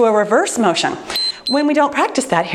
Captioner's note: timer beeps